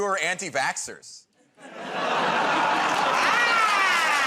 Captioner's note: laughter